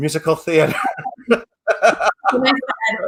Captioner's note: laughs